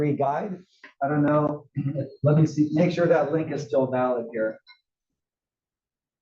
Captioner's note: cough